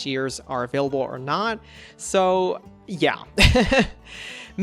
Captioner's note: laughs